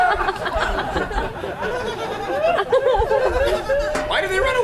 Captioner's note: audience laughs